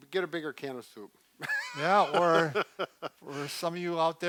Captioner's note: laughing